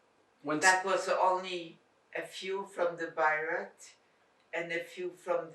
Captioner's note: non-english